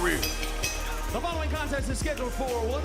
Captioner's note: bell ringing